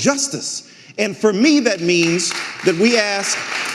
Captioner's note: audience applauding